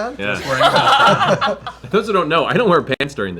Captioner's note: laughter